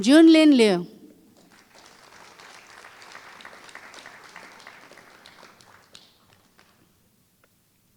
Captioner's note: applause